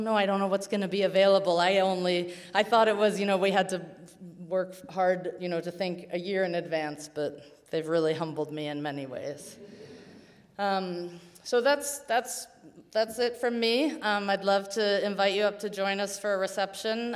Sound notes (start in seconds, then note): 9.6 audience chuckles